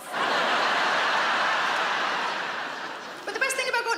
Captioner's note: audience laughing